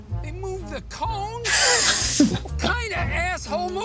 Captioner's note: all laugh